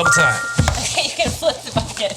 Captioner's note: text chiming brightly; laughing